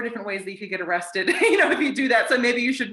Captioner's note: laughs